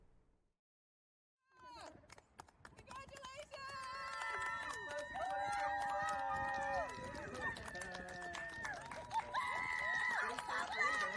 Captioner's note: clapping and cheering